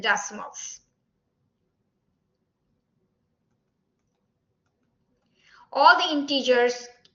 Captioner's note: silence